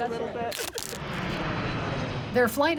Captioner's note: airplane engine roars